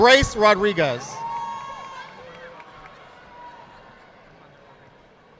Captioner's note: audience applauding